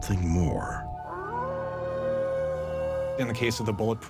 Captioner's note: distant howling